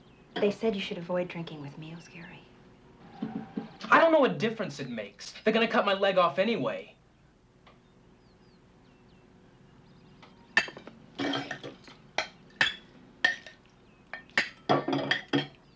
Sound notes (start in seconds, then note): 11.1 dishes clanking